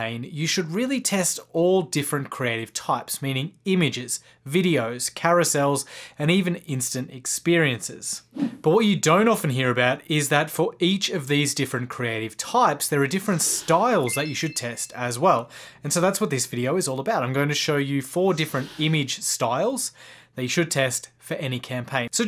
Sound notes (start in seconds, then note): 7.9 whooshing